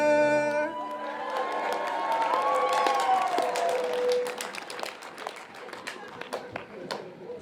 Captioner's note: applause